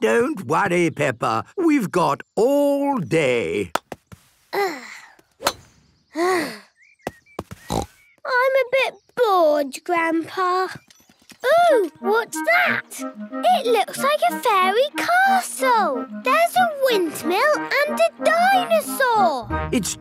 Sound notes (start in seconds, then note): 4.6 sighs; 7.6 snort